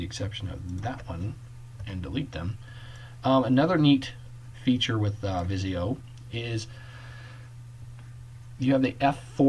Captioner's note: click